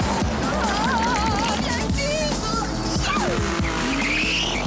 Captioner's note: screaming